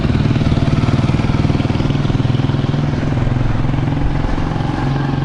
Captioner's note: engine sounds